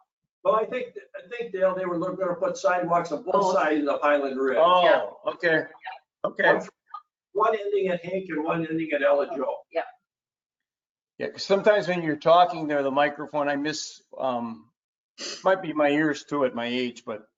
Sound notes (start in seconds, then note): 6.3 speaks faintly